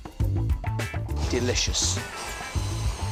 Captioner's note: blender whirs